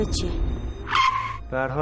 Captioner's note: tire screeching